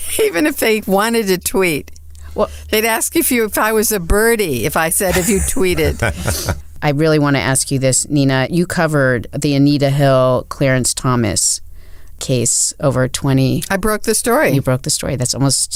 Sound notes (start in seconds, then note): 5.0 laughs